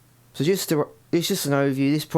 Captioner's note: stutters